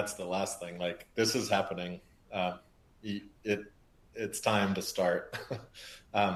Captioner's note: laughs